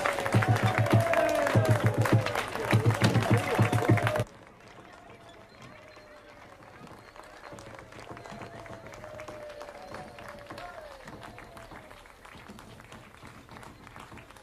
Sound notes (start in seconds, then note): 4.7 cheering and applause continue